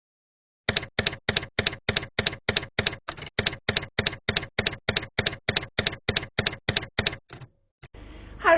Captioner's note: tyepwriter keys clacking